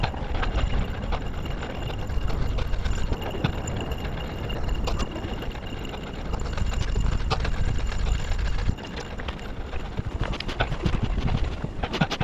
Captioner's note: wind blowing